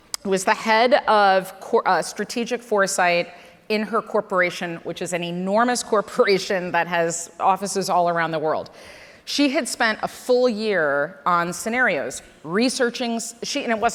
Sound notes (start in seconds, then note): none